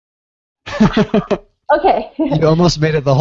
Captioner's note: laughing